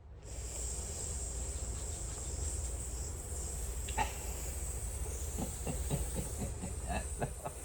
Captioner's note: mouth sizzling noises; laughs